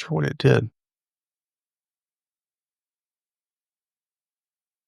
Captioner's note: blank Audio